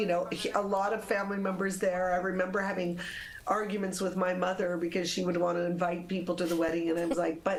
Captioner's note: laughter